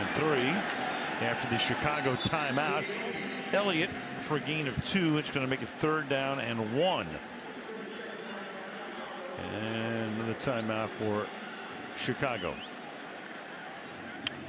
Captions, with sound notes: Second and 3 after the Chicago timeout. Elliott for a gain of 2. It's going to make it third down and 1. [pa announcement] Another timeout for Chicago.